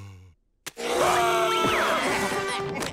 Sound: screaming

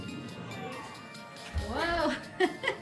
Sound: laughing

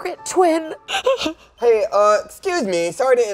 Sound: Meredith sobs

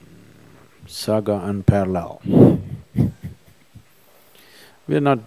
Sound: laughs

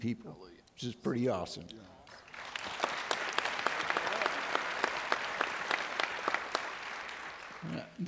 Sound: audience Applauds

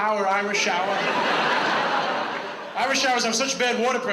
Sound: audience laughs

